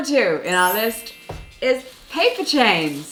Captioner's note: magical chiming